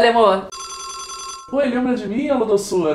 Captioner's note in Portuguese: telefone tocando